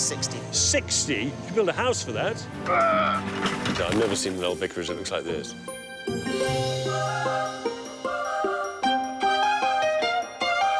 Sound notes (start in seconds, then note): 2.8 worker exclaiming; 6.3 upbeat music